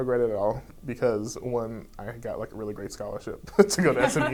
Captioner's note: laughs